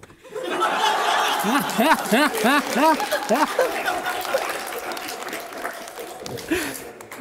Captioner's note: laughing